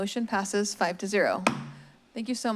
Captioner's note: strikes gavel